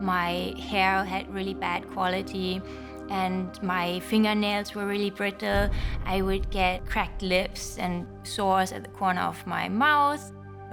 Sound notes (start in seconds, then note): none